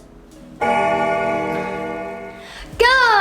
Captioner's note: bell ringing